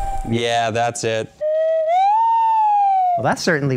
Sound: slide whistle

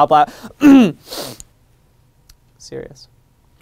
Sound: clears throat; deep breath

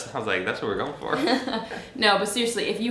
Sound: both laughing

